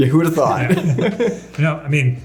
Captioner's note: everybody chuckling